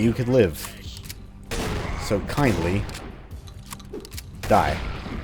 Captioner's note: boom